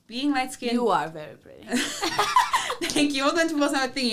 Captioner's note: both laugh